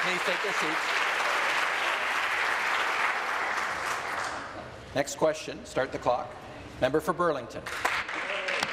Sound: some Applause

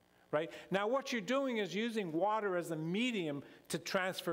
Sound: none

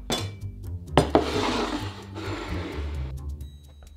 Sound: bowl sliding

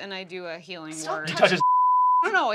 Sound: beep

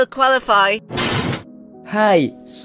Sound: door opens

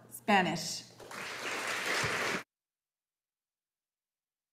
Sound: audience applauding

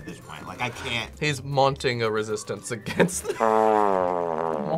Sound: laughs; sad trombone music

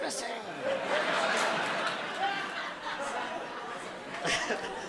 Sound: audience laughing

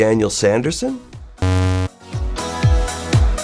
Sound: buzz

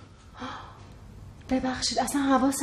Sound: gasp

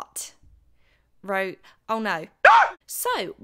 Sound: scream sound effect

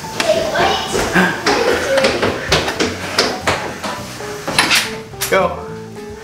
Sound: footsteps running back downstairs

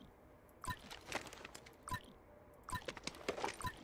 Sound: footsteps

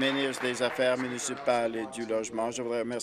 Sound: applause

